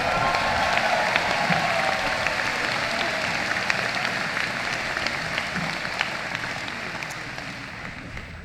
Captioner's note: applause